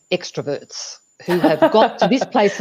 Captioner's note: chuckles